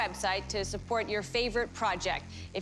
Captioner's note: none